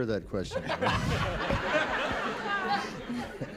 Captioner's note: laughter